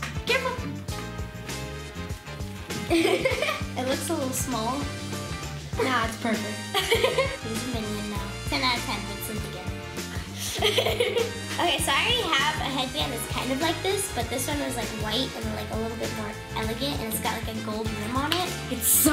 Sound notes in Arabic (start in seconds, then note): 2.8 يضحك; 10.3 يضحك